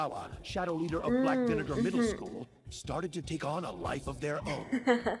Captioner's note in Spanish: Sonidos de recordación